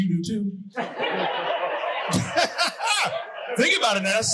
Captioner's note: audience laughing